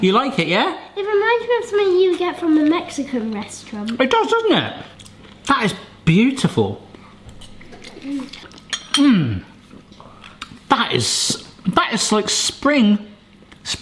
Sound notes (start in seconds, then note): none